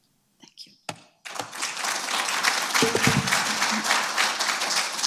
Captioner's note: audience applauding